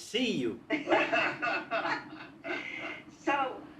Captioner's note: laughing